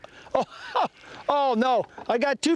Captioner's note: laughter